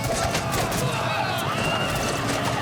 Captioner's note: grunting